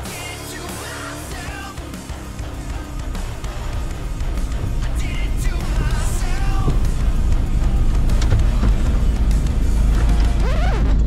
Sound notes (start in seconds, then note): 4.3 van engine noise starts to fade back in; 10.0 music stops suddenly with a record scratch noise